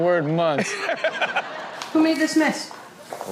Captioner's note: Steelo laughs